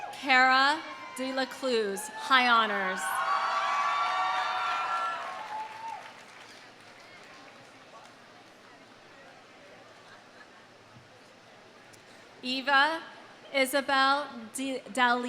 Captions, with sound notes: Cara DeLacluyse, high honors. (audience cheering) (audience applauding) Eva Isabel Dellea.